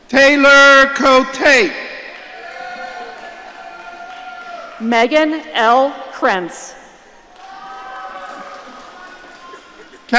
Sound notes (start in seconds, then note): 2.1 audience cheering; 7.3 audience cheering